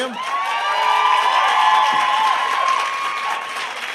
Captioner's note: applause